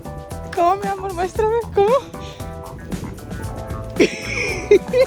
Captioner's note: laughter